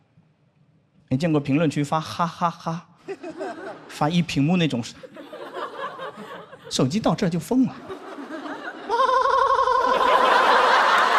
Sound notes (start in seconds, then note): 7.8 laughing